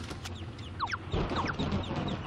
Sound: earth quack

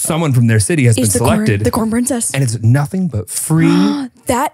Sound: laughs

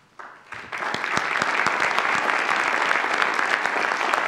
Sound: audience applauds

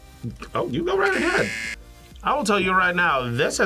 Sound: buzzer

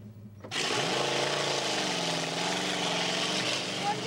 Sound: engine revs

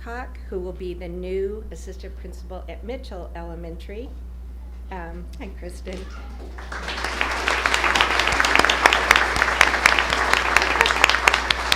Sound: applause

